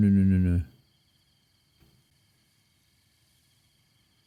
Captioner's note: birds chirping